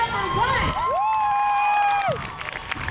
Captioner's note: crowd cheers